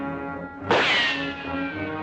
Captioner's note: gunshot